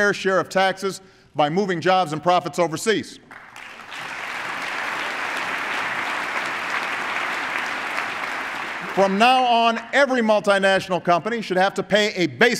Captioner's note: applause